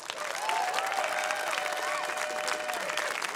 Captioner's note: cheering, applause